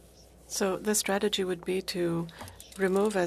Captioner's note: speaking FRENCH